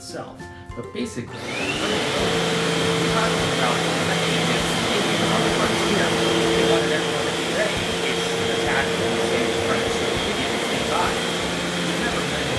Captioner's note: vacuuming